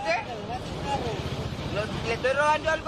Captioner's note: officer speaks in foreign language